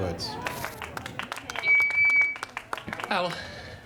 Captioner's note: smattering of applause, microphone feedback